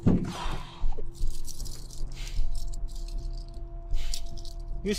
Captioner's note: breathing heavily